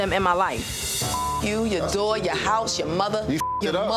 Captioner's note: beep; beep